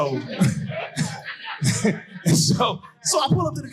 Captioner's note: chuckles